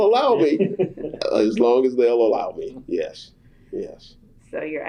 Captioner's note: laughter